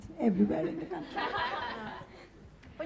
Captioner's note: laughing